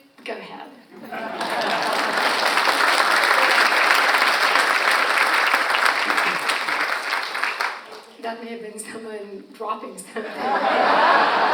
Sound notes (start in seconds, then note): 1.0 audience laughs and applauds; 10.2 audience laughs